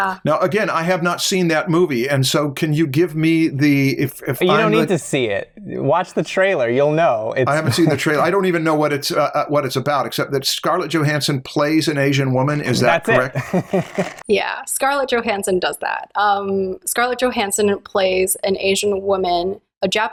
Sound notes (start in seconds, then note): 12.8 laughter